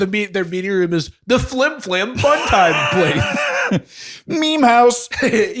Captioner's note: laughter